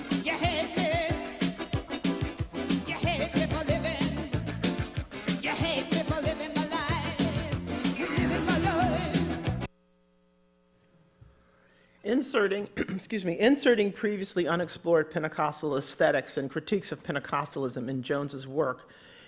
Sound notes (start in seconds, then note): 12.7 clearing throat